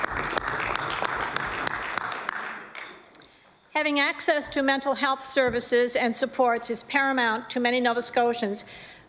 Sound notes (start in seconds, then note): 3.7 applause